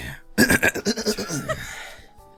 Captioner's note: clears throat exaggeratedly; cry; giggles